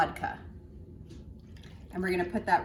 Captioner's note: pouring sounds